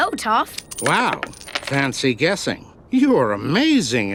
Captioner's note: coins clinking